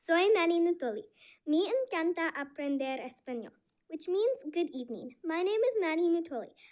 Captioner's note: speaking spanish